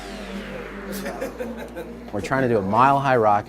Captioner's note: laughing